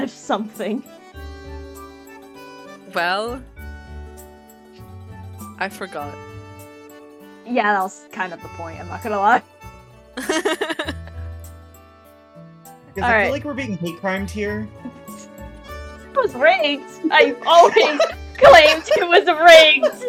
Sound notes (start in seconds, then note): 10.2 laughs; 17.5 laughs